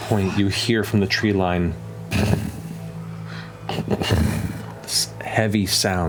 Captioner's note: heavy footfalls